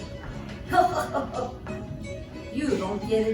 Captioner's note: laughs